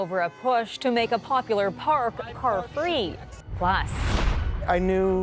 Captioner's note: honking